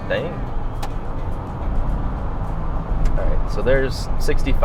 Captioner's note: car engine roaring